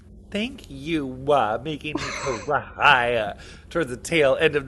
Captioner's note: speaking in foreign language